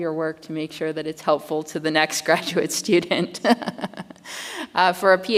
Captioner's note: chuckles